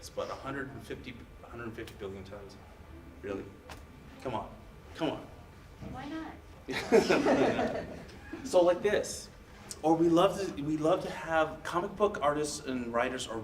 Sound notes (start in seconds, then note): 6.7 audience laughs